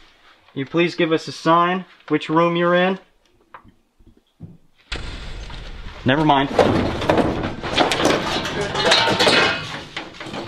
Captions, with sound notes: Can you please give us a sign which room you're in? **(Footsteps and thump)** Never mind.